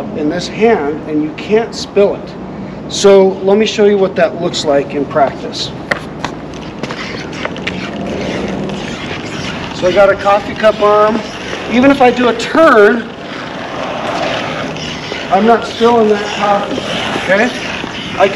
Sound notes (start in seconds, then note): 14.0 wheels spinning